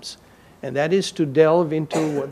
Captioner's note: audience member coughs